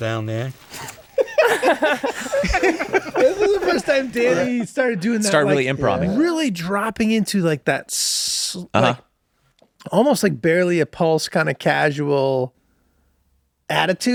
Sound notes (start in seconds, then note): 2.5 group laughs